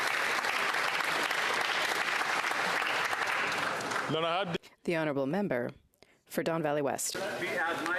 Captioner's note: applause